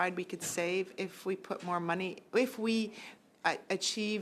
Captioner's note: speaking French